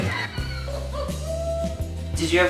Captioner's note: laughter